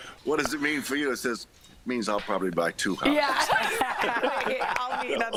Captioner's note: laughter